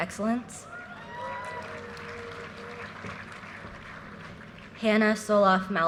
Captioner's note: audience cheers and applause